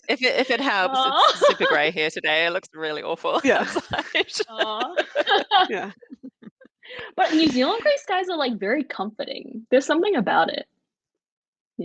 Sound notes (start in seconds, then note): 3.2 all laughing